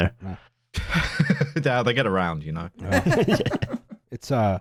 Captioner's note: laughter; laughs